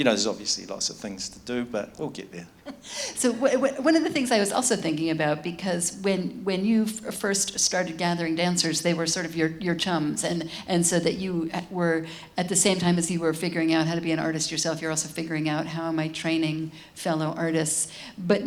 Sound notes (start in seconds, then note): 2.6 chuckles